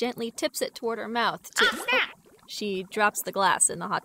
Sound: a sploosh

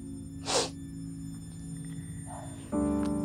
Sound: sniffs

